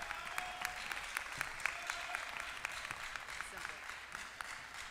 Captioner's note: applause